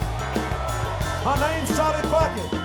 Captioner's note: crowd cheers